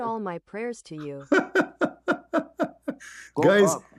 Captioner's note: Ketawa